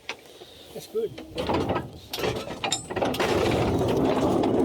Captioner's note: clanking noise